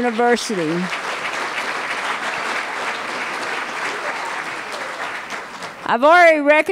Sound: applause

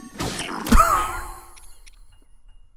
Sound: wheeze

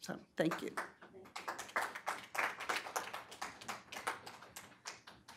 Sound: audience applauding

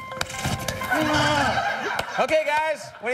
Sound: buzzer

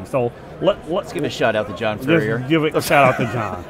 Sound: laughing

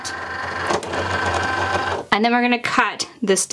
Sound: machine whirring

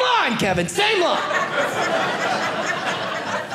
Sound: audience laughing

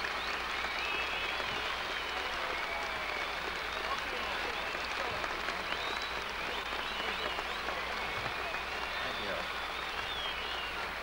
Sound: cheers

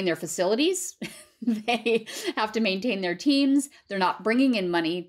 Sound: laughter

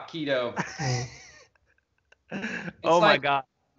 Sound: laughs loudly

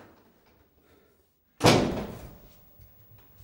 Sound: door opens and slams shut

